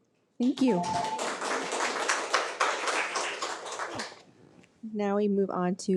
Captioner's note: attendees applaud